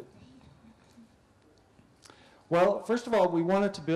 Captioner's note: pause